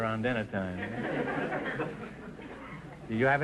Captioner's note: audience chuckling